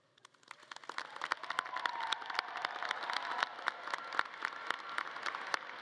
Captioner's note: audience cheering and clapping